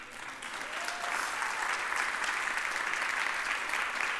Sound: audience applauding

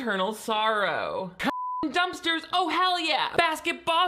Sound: beep

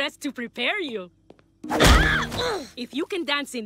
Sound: groaning

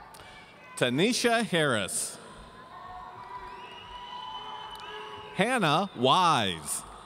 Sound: audience cheering

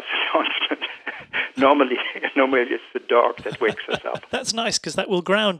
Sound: laughs

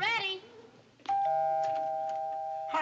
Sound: doorbell

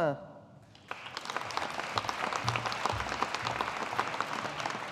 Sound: audience applauding

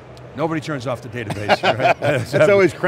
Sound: laughing

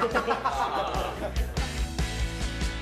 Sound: laughter

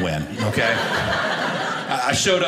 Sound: audience laughing

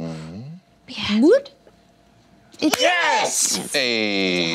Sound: cheering

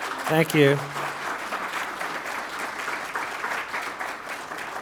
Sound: applause

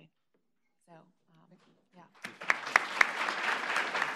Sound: applause

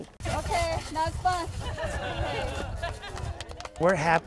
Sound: laughing

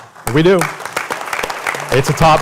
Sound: applause

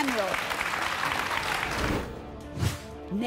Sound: audience applauding

